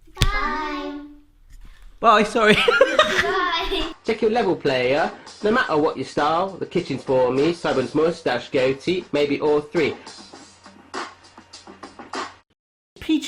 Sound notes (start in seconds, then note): 2.5 laughing; 10.0 hip hop music